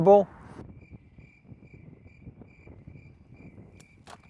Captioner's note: crickets chirping